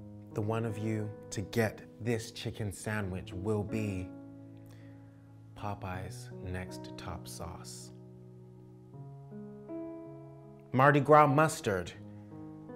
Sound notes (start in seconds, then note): none